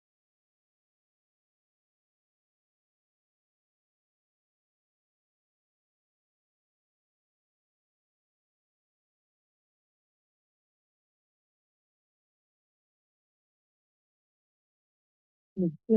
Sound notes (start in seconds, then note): 2.2 silence